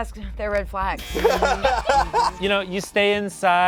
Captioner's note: laughs